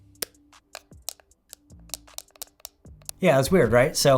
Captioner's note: clicking noise